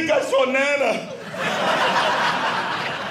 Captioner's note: audience laughing